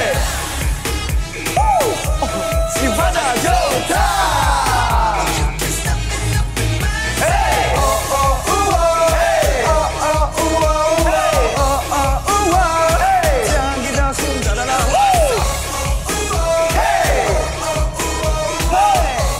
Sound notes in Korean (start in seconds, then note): 1.6 감탄